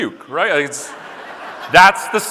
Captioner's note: audience laughing